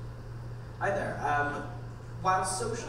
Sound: voiceover

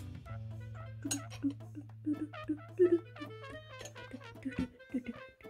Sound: humming

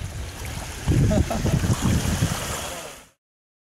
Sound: chuckling

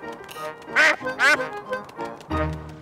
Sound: quacks

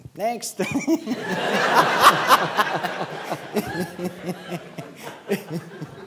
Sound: laughter

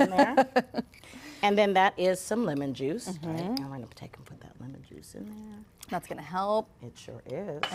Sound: laughter

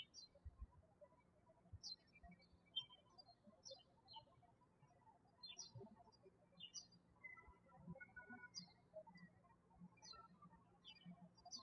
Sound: birds chirping

